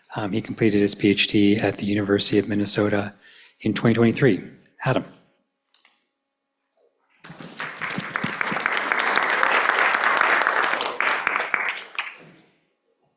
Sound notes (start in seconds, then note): 7.2 applause